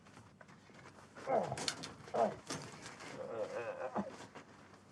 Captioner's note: Isaac groaning